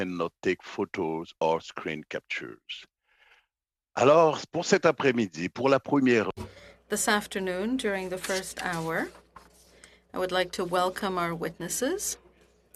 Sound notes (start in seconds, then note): 8.3 speaking French